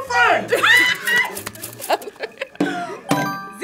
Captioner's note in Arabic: يصرخ